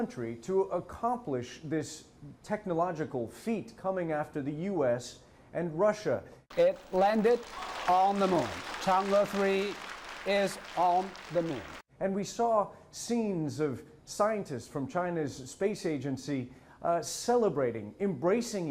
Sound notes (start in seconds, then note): 8.4 applause